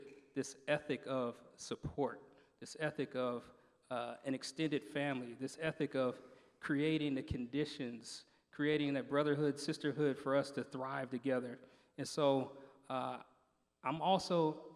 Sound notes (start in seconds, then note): none